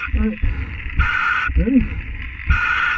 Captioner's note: equipment hissing